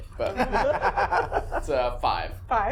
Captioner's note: laughing